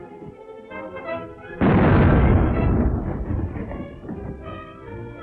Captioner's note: cannons booming